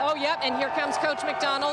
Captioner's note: applause